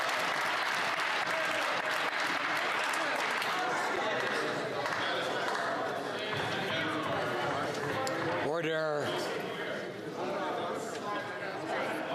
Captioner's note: some Applause